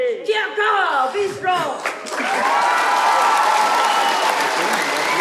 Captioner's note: cheers and applause